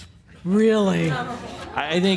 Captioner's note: some laughter